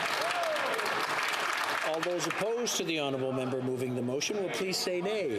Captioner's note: some Applause